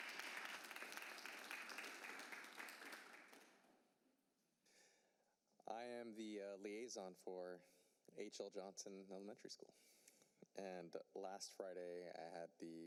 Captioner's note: applause